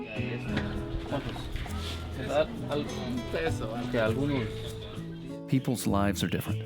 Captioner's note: speaking Spanish